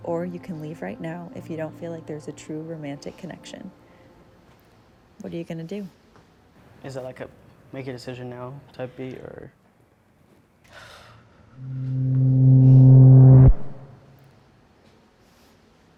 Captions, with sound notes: or you can leave right now if you don't feel like there's a true romantic connection. What are you going to do? - Is it like a make a decision now type B, or- (deep breathing) (suspenseful music playing)